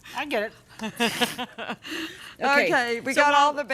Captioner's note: both laugh